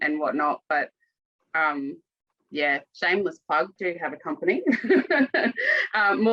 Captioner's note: laughs